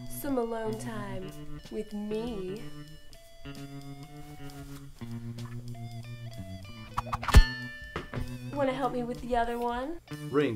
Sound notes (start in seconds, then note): 7.3 clang